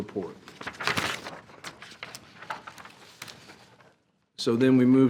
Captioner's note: paper crackling